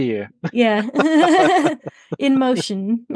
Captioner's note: laugh